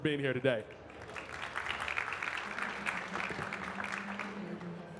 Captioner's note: audience clapping